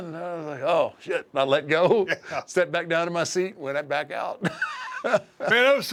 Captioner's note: laugh